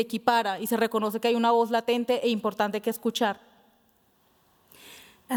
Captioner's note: speaking Spanish